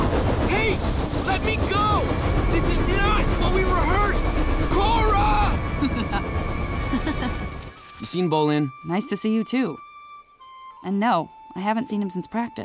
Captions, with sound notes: Hey, let me go! This is not what we rehearsed! Korra! [laughing] - You seen Bolin? - Nice to see you, too. And no, I haven't seen him since practice.